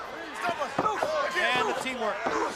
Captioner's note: crowd chatter